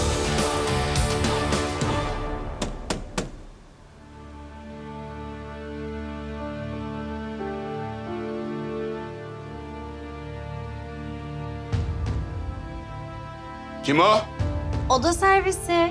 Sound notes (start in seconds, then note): 2.6 knocks on door; 3.5 thriller music drops